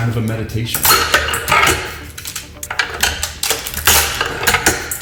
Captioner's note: nuts cracking